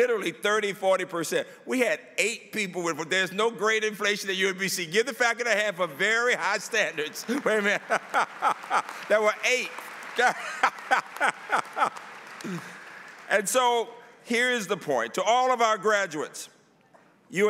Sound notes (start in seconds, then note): 10.2 laughter; 11.9 applause